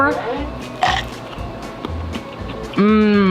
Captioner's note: munching